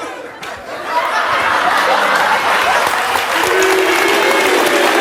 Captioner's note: audience laughing